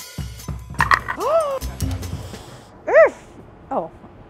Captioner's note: rhythmic music; exclaims